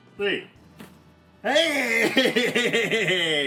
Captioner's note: laughs